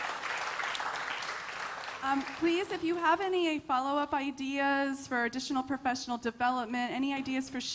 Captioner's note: applause